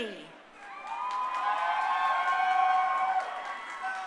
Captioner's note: crowd cheering